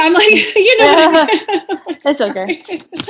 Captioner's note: laughing